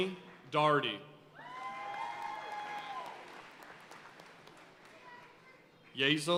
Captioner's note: audience cheering and applauding